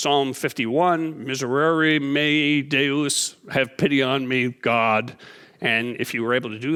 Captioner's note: speaking in foreign language